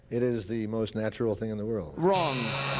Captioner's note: buzzer